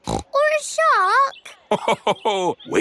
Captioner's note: snorts; laughs